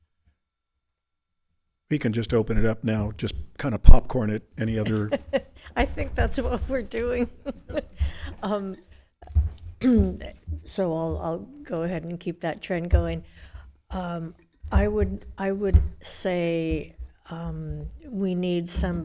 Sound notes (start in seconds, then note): 4.6 laughs